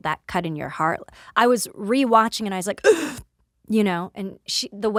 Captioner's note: gasps